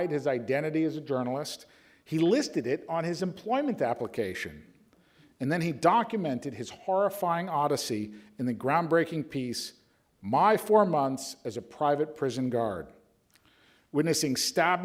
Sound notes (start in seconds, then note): none